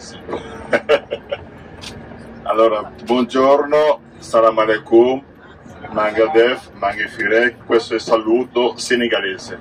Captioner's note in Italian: Risata